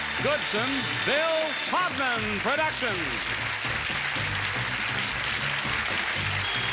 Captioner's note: applause